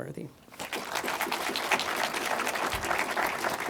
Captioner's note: crowd claps